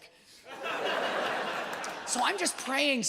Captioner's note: audience laughs